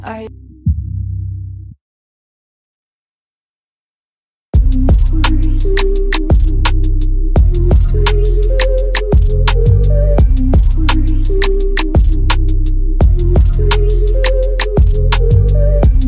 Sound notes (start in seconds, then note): 1.7 silence